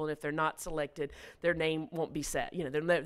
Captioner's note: none